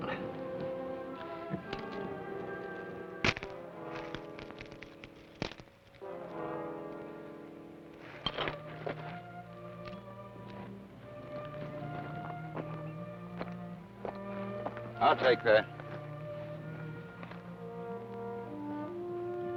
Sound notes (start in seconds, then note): 3.3 manacles clack; 9.9 warm orchestral music